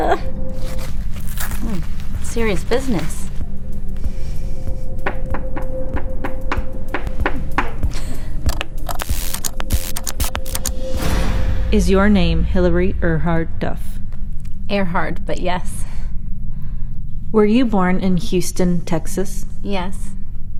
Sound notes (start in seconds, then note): 5.0 fingers tapping; 8.1 Hillary chuckles; 8.9 connections sizzling